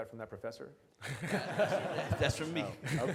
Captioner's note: audience laughs